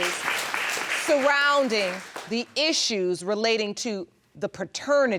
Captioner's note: audience applauding